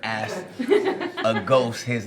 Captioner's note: rires